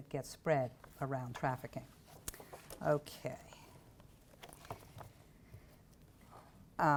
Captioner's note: none